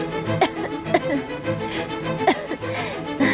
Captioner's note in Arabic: سعال